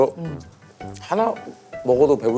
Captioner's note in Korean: 쩝쩝